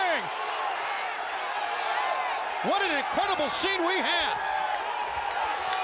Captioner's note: applause